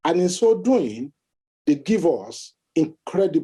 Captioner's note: none